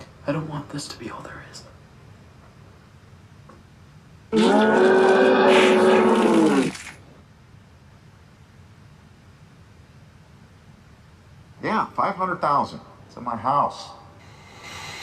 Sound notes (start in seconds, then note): 4.3 Rat King growls; 14.2 Billy deeply breathes